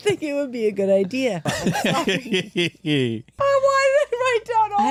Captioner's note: laughter